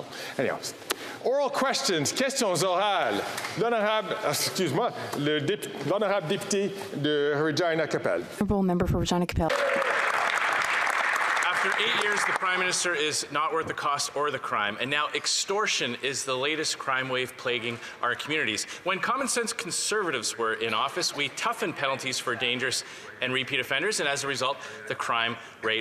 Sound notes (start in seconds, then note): 6.9 speaking French